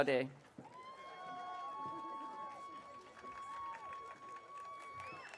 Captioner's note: audience cheering